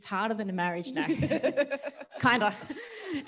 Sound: laughs

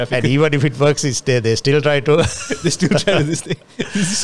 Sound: laughs

